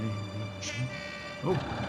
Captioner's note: honk